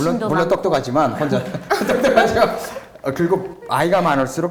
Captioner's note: everyone laughs